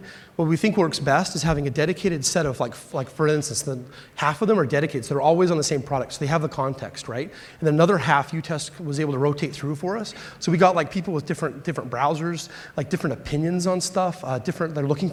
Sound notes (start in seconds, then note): none